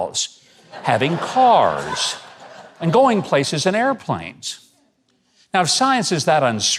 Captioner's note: laughing